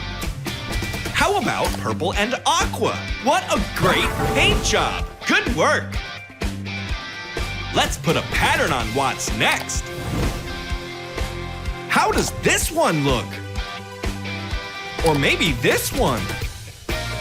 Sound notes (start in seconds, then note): none